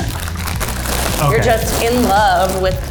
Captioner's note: bags rustling